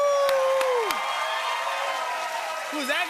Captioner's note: cheers and applause